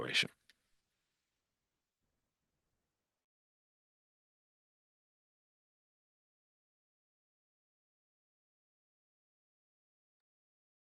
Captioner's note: silence